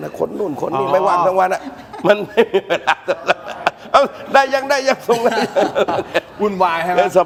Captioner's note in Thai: เสียงหัวเราะ